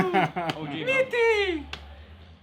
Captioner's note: sarcastically; laughs; sarcastically high pitched